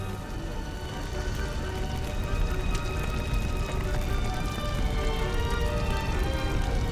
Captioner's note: fire crackling; light dramatic music